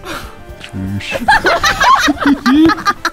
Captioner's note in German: Kreischendes Gelächter